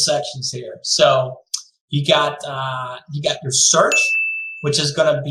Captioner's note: bell chiming